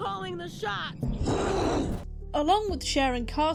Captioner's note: angry shark noises